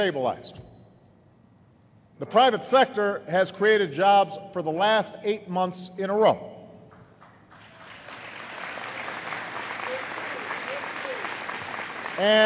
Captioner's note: applause